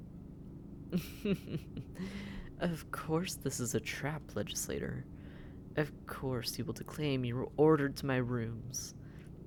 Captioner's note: laughing